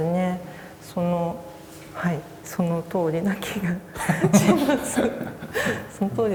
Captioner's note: laugh